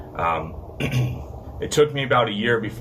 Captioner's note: clears throat